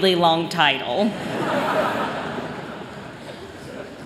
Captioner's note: laughter